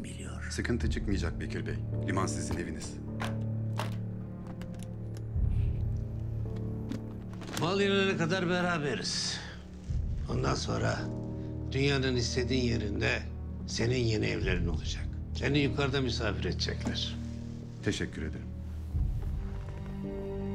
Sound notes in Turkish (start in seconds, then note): 2.5 Kilit açılma sesi; 3.6 Kapak açılma sesi